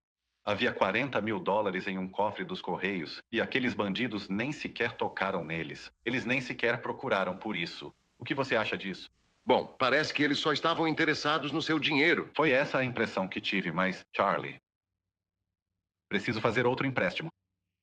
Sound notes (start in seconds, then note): none